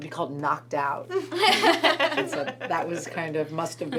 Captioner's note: everyone laughs